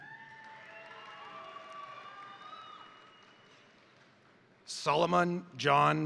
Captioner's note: crowd cheering; crowd applauding